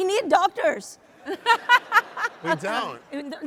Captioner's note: audience laughs